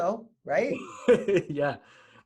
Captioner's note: laughing